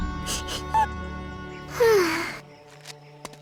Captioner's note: sighs